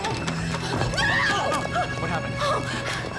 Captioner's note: Emily screaming